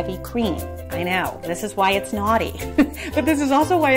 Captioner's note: chuckles